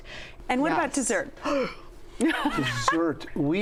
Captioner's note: gasps